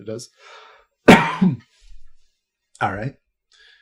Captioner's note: coughs